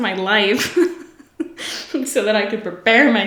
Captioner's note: laughs